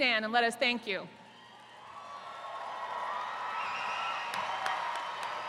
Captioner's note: attendees cheering